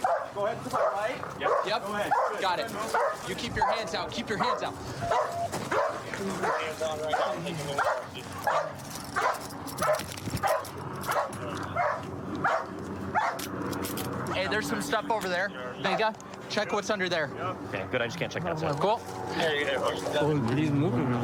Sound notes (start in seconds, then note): 6.4 dog barking